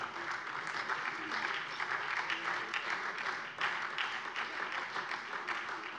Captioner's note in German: Beifall SPD